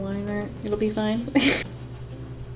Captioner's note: laughs